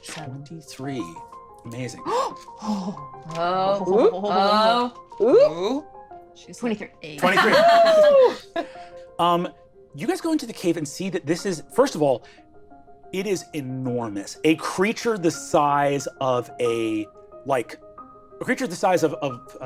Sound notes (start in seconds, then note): 2.0 gasps; 7.2 laughing